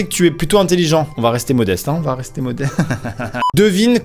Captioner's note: giggles